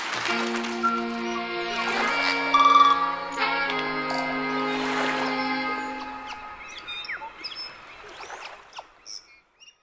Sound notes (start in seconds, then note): 0.0 soft music; 4.3 waves splashing